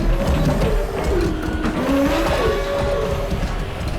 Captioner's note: car backfire